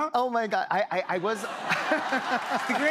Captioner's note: laughter